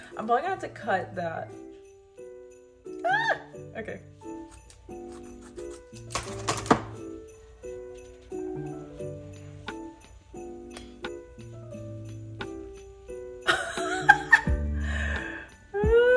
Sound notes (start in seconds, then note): 4.9 scissors snipping; 10.8 clip clicking; 13.6 laughs